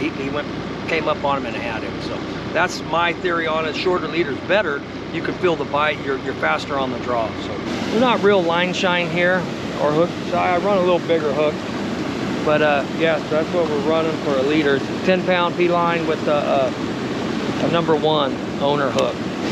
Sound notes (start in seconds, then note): 8.8 water rushing; 9.6 fish splashing; 19.3 water rushing